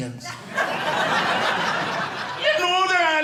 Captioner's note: audience laughing